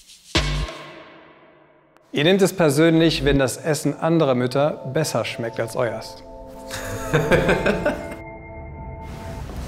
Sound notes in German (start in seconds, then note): 0.6 Musik verklingt; 6.7 Gelächter; 8.5 Gespannte Klänge